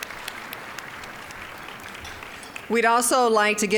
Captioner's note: applause